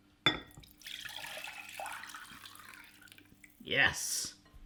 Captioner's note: pouring